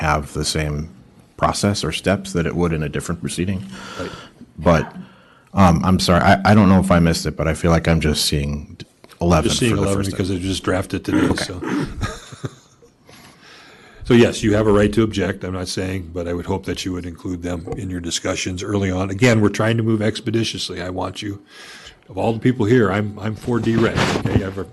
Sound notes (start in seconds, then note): 3.6 gasps; 11.0 clears throat and laughter